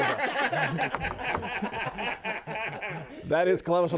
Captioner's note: laughter